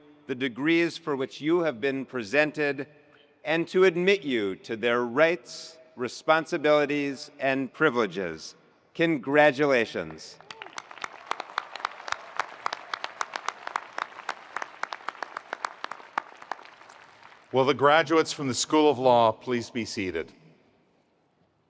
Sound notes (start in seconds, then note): 10.4 attendees applauding; 10.4 attendees cheering